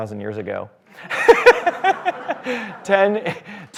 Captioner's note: laughter